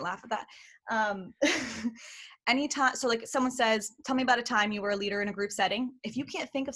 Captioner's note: laughter